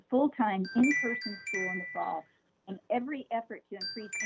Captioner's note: chime